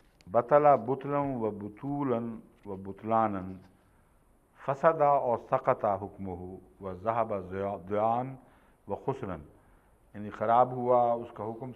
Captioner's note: Arabic